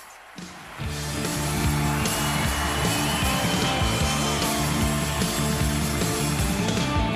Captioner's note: audience cheering; upbeat rock music